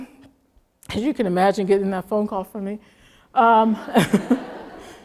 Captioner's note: laugh